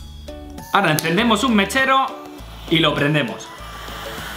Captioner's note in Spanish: click